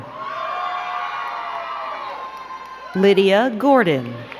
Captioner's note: crowd cheering and clapping